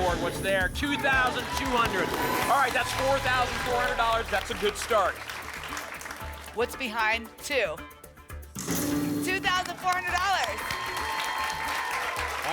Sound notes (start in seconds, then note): 5.3 applause; 9.4 applause and cheering